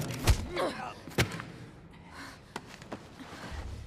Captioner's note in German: schweres atmen